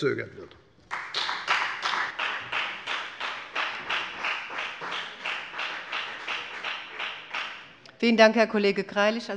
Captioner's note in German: Beifall bei der FDP